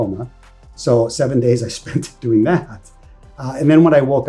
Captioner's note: chuckles